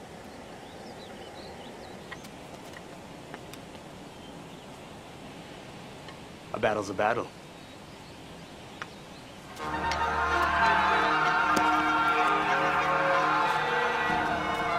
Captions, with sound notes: - A battle's a battle. (dramatic orchestral music) (people yelling)